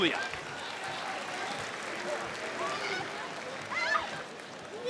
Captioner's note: crowd applauds